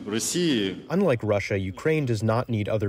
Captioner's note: through translator